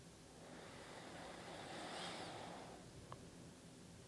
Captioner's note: inhales deeply